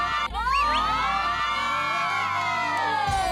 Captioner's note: scream~